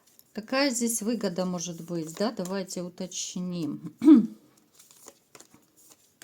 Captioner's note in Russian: откашливается